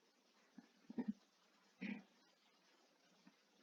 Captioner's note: torokköszörülés – throat clearing